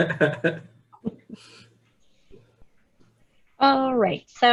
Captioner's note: laughs lightly